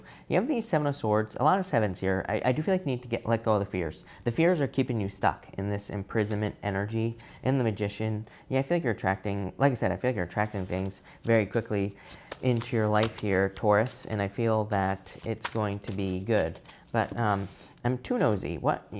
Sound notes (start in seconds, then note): 13.3 cards shuffling